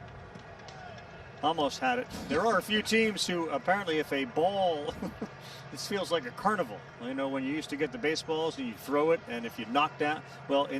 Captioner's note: laughter